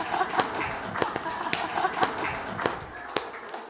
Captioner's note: laughter/Applause